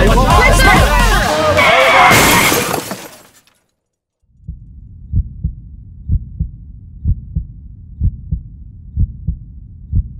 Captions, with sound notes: - There's a car. Look out! (crashing) (heartbeat thumping)